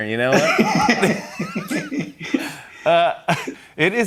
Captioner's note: laughter